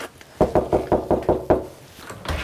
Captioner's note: knocking on door